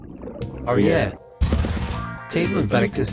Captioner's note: respawning sound